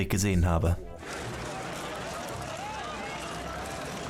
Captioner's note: loud chatter